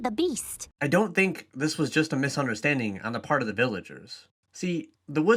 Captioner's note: voiceover